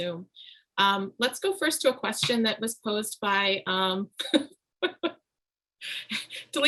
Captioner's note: laughs